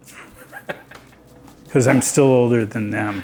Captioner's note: laughing